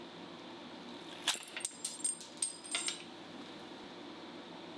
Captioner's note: metal clanking